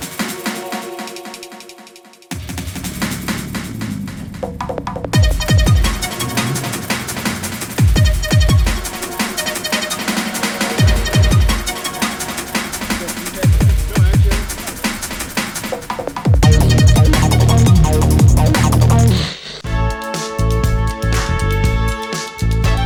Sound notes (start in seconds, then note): 0.0 techno music; 19.4 static; 20.2 disco music